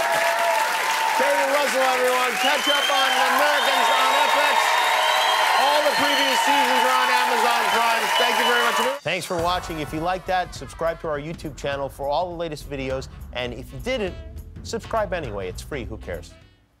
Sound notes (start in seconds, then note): 6.2 cheers and applause